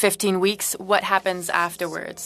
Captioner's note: speaking French